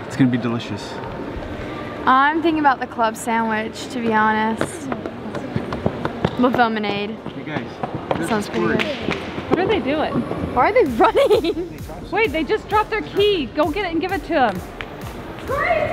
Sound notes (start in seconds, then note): 5.0 woman speaking faintly; 10.9 laughs